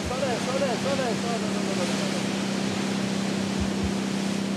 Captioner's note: waves crashing